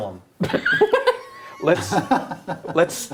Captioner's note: laughing